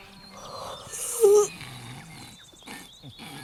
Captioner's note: yawns; snores